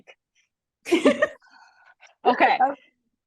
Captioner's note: both laughing